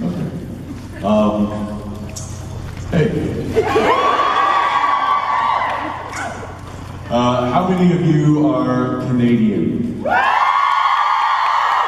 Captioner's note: crowd cheers